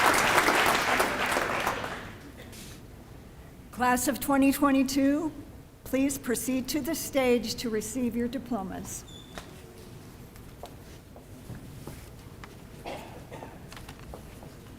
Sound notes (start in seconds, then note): 2.7 applause